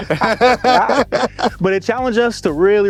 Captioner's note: all laughing